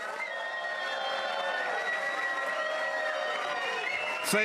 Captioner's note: audience applauding and cheering